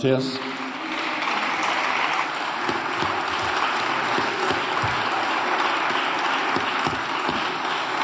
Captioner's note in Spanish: Aplausos